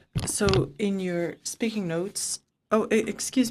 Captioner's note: speaking French